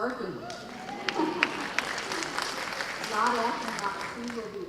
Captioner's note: audience cheering